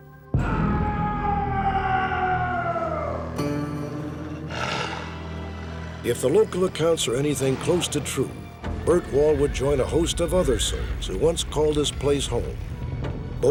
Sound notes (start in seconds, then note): 0.4 screaming; 4.6 growling